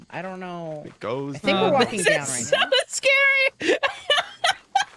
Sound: laughs

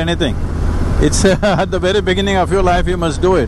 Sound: laughs

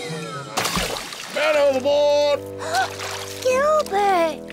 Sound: splash; gasps

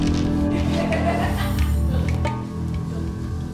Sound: laughter

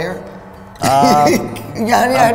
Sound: laughs

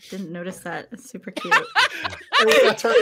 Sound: laughing

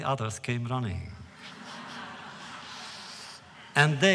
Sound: laughter

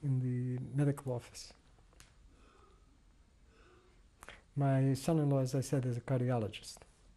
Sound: pauses for 3 seconds

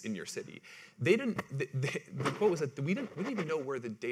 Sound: laughs

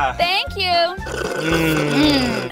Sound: slurping

